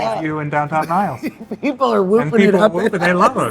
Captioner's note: laughing